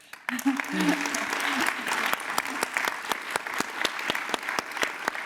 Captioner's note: applause